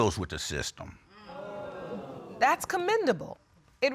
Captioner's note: audience exclaiming